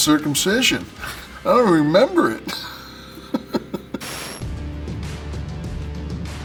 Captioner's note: laugh